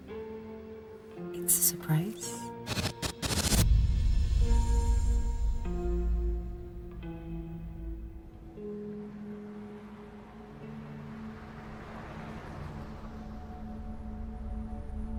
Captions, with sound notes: - It's a surprise. (Static buzzing) (Light dramatic music)